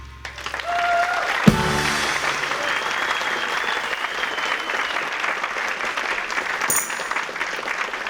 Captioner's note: applause